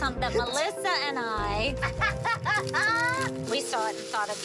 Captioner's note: laughter